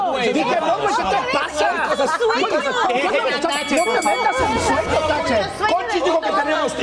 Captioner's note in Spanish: risas